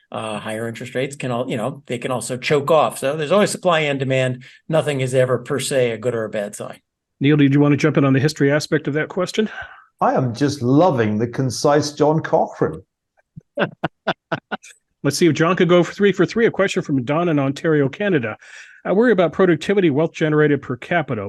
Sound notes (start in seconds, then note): 13.4 laugh